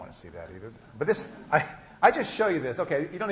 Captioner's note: laughs